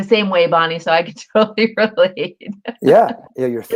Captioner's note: laughter